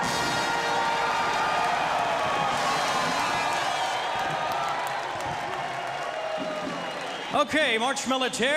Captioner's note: crowd cheering